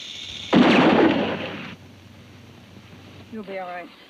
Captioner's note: gun bangs